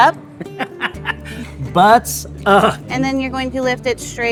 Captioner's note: laughing